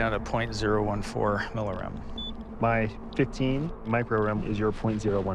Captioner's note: reader beeps